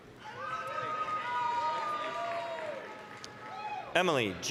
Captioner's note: applause, cheering